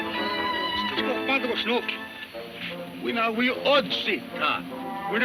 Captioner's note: speaking in foreign language